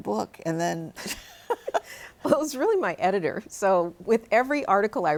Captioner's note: laughs